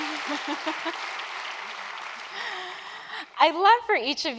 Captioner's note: applause